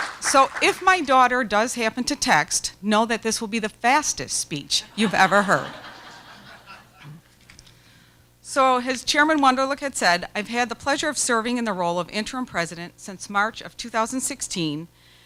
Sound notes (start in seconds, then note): 0.0 applause; 4.9 background laughter